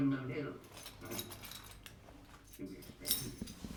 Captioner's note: keys jingling